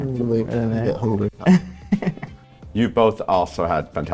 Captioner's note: Pope laughs